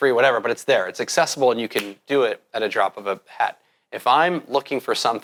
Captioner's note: snaps